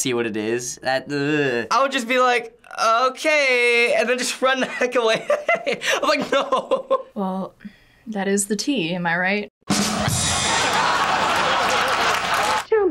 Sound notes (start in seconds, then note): 4.9 laughs; 9.7 ba-dum-tss; 10.1 canned laughter